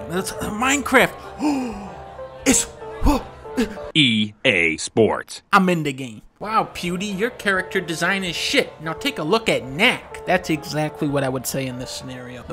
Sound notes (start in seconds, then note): 1.2 gasps